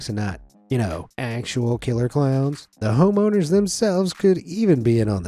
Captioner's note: none